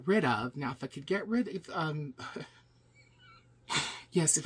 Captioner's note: chuckles